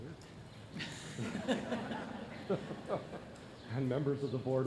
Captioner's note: laughter